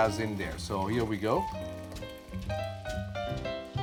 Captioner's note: splashing